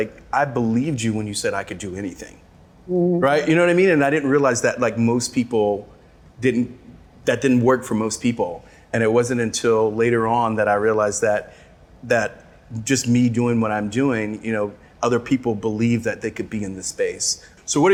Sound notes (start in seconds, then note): none